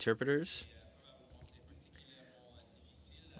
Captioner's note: speaking in french